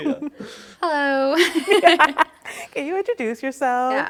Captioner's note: laughs